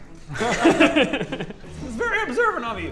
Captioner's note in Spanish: Risas